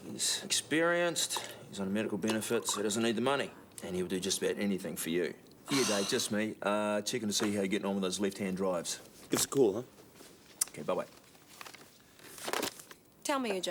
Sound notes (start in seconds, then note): 5.6 Jodie sighs; 12.6 phone clatters